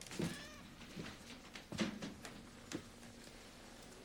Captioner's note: cat meows